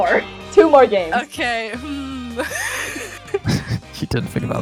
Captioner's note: laughs